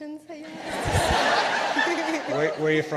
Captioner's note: participants laughing